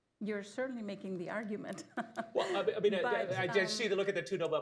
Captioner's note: laughs